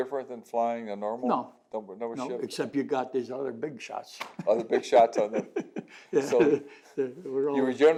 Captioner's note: laughs